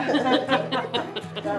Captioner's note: people laughing